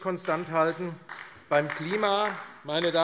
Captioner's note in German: Beifall AfD